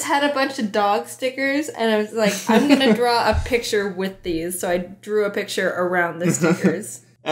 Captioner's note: laughs; laughs